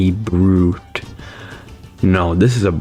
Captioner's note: inhales Oxygen